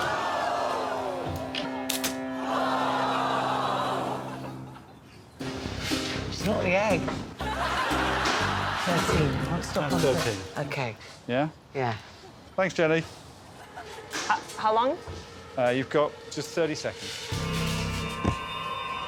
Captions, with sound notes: [audience exclaiming] [audience groaning] It's not the egg. -Thriteen. I would stop on 13. -That's 13. -Okay. -Yeah? -Yeah. -Thanks, Jenny. How long? Er, you've got just 30 seconds.